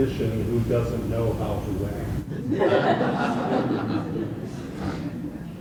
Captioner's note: laughter